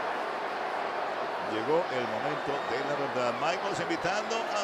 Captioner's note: applause